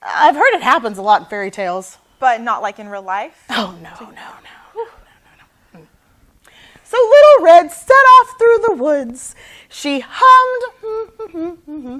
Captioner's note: hums